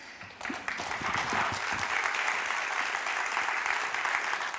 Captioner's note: applause